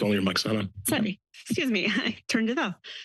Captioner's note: chuckles